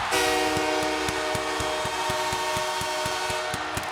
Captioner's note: horn blares